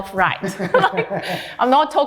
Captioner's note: all laughs